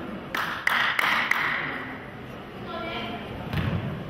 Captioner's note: clapping